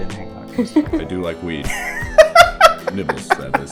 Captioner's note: laughter